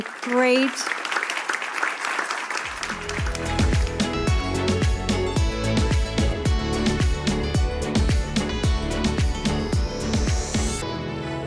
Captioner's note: applause